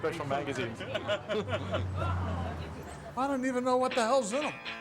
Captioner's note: men laughing